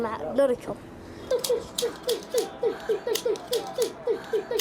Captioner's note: imitating gun firing